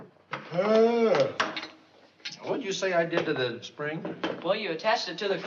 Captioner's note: yawns